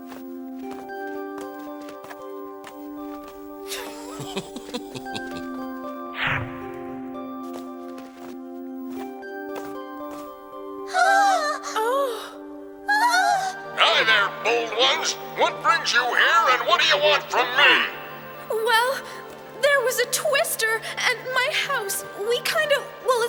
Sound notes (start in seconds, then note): 3.7 chuckling; 10.8 gasping